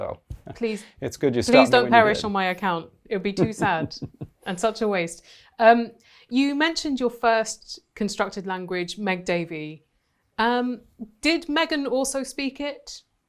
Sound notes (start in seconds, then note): 3.4 chuckling